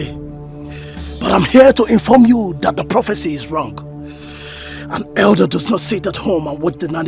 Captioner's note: snorts